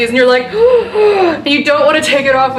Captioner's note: gasps